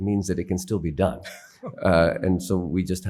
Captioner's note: laughing